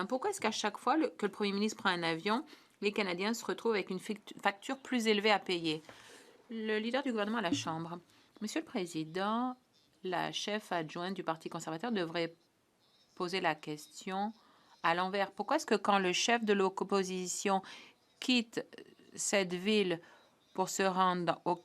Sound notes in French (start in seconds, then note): 12.4 voix de l'interprète